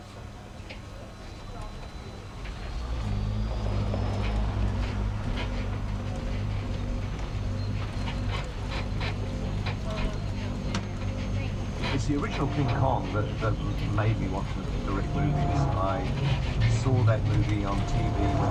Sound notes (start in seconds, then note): 3.4 tram engine whirs; 8.4 tram creaks